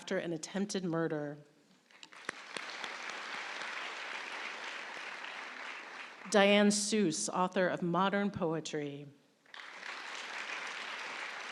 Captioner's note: applause